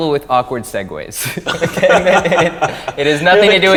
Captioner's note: both men laugh